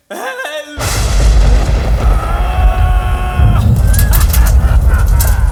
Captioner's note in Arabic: أصوات مخيفة